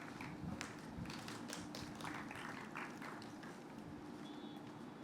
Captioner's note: applause